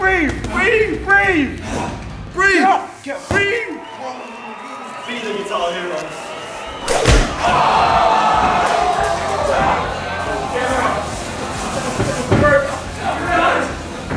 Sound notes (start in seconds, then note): 6.8 loud bang; 7.6 crowd cheering